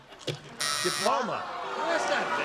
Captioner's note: wrong buzzer